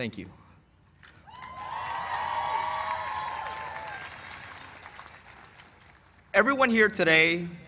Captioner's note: cheers and applause